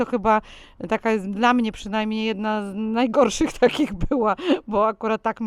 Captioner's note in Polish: śmiech